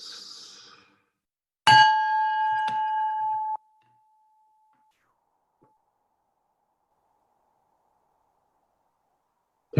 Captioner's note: ring of Bell